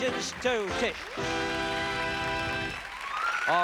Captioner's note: applause